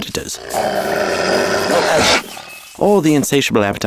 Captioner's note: wolves growl